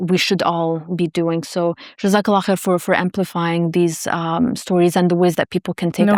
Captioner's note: speaking foreign language